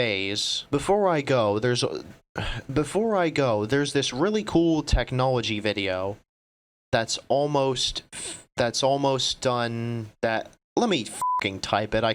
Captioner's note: sigh